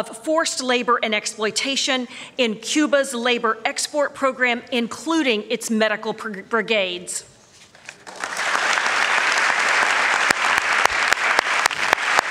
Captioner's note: applause